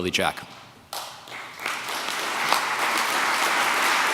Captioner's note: audience clapping